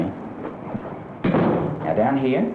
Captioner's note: door closing